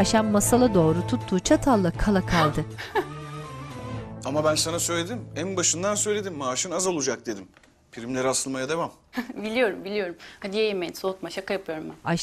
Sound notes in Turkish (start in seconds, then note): 2.8 Gülme sesi